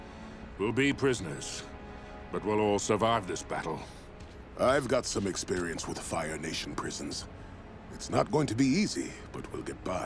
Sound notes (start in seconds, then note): none